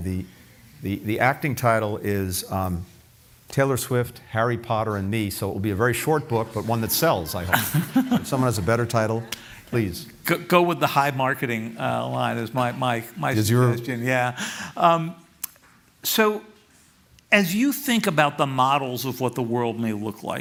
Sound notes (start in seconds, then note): 7.8 laughter